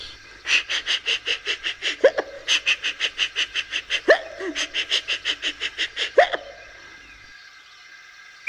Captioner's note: James laughing and hiccups